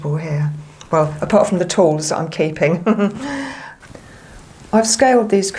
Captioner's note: laughter